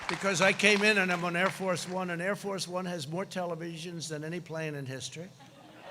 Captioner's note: crowd cheering